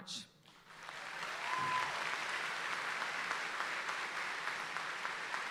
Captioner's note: audience applauds and cheers